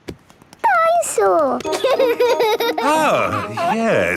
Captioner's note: giggles